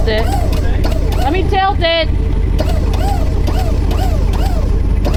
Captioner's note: toy Squeaking